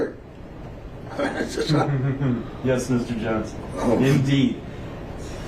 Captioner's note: chuckles loudly